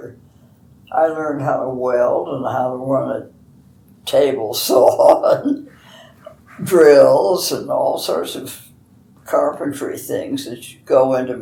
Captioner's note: laughs